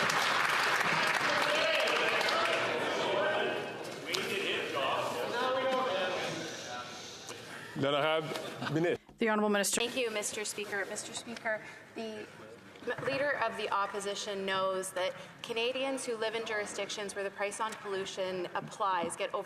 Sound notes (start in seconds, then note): 2.9 some Applause